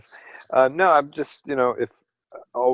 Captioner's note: laughter